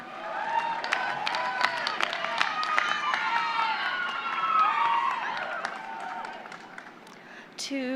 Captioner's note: applause